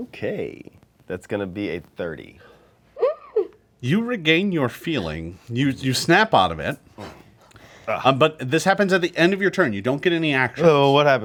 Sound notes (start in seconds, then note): 3.2 gasps